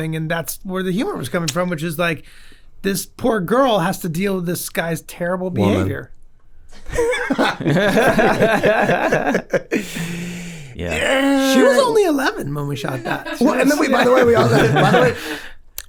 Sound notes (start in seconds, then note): 6.8 group laughs; 8.1 Rob sighs